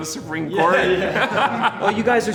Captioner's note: laughing